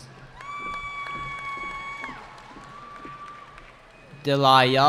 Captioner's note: cheering